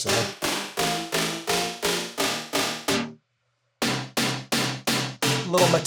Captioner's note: metal bars clanging repeatedly